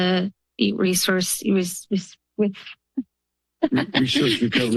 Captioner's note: laughs